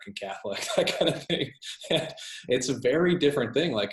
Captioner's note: laughs